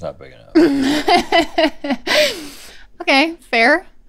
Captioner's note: laughs